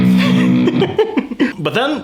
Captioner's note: laughs